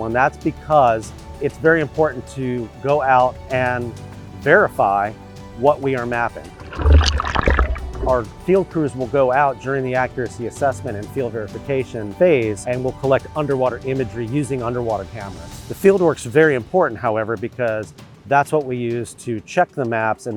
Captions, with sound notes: and that's because it's very important to go out and verify what we are mapping. (water whooshing) Our field crews will go out during the accuracy assessment and field verification phase, and we'll collect underwater imagery using underwater cameras. The fieldwork's very important, however, because that's what we use to check the maps